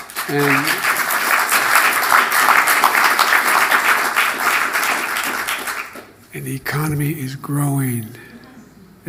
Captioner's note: applause